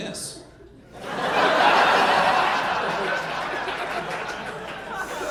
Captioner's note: audience laughing